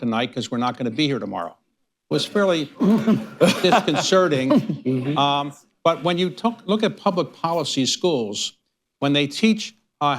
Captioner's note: laughter